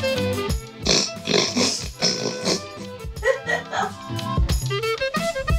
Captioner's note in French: rigolent